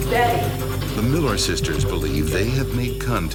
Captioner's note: voiceover